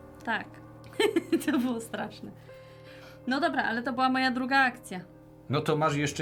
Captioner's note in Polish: śmiech